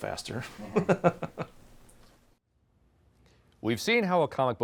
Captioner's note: chuckling